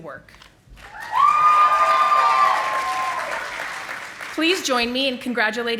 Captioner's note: audience applauding